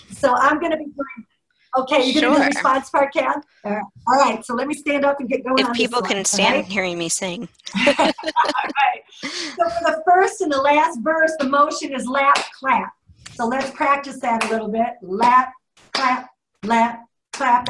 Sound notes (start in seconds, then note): 7.6 laughter